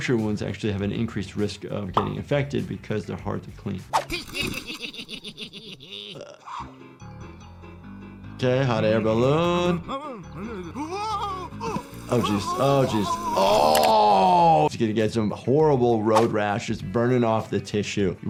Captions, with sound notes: Puncture wounds actually have an increased risk of getting infected because they're hard to clean. (Lifty and Shifty laugh) Okay, hot air balloon. (Lumpy gasps) Oh geez. Oh geez. Oh. He's gonna get some horrible road rash. It's burning off the tissue.